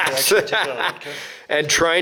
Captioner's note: laughing